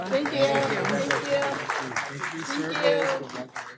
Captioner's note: laughter